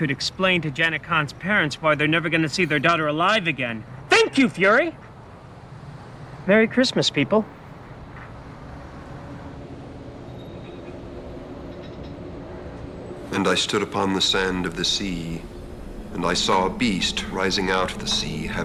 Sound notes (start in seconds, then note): none